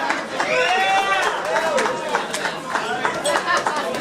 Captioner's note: clapping